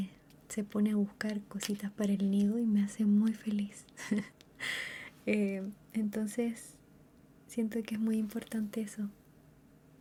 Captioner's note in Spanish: risas